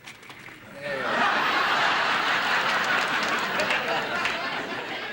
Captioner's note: audience laughing